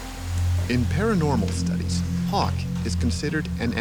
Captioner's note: voiceover